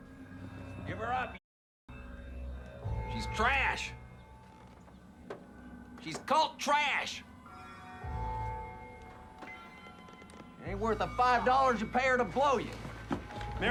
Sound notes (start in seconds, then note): none